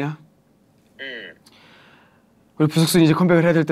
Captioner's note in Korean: 들숨